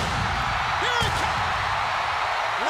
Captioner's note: crowd cheering